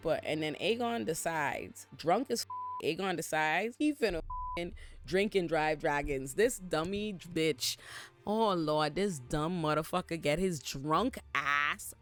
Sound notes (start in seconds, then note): 2.4 beep